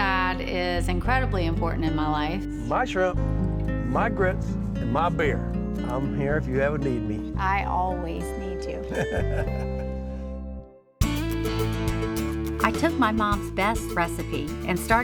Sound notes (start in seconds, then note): 8.9 chuckles; 11.0 upbeat music starts